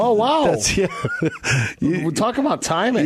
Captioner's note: laughing